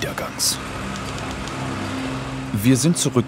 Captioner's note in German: Schreibmaschinengeräusche